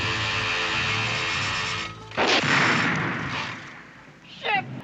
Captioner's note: car backfires